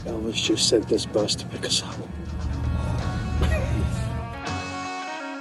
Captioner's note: laughs; upbeat music